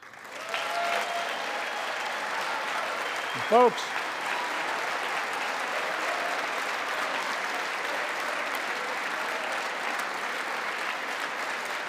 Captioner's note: applause